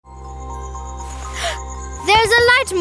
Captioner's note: gasps